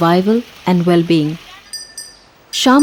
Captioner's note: bell jingles